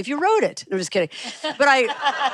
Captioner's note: laughter